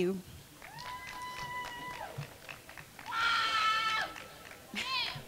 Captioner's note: crowd cheering